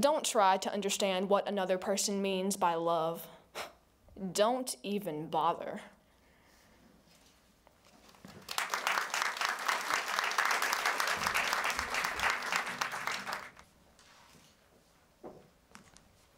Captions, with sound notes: Don't try to understand what another Person means by love. Don't even bother. [applause]